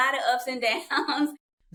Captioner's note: laughter